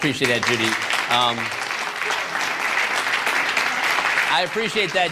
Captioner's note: applause